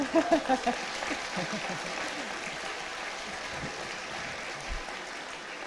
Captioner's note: applause